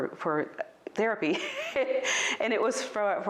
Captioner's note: laughs